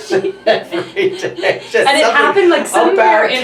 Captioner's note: laughs